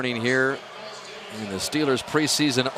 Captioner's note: pa announcement